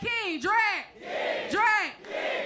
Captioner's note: crowd